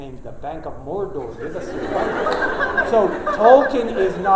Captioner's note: laughter